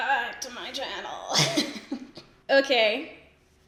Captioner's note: laughs